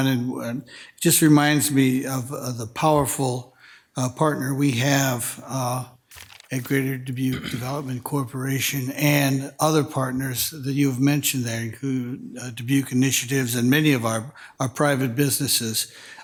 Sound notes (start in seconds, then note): 7.2 attendee clears throat